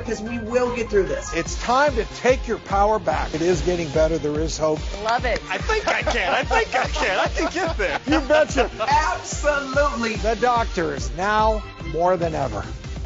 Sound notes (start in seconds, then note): 5.6 laughing